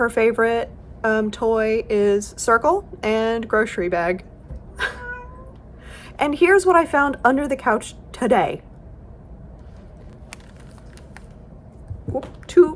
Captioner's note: meow